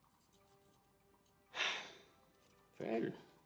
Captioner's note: sighs